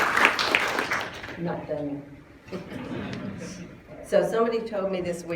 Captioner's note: applause; laughter